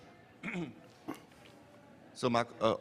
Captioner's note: clearing throat